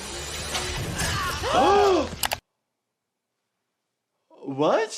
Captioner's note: both gasp